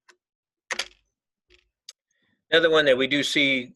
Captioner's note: keyboard clicking